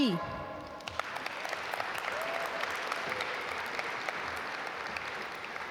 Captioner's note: audience applaud